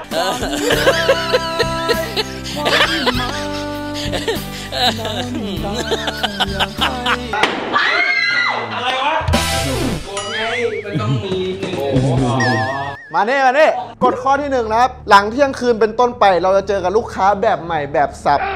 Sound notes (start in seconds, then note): 7.4 bang; 7.7 screams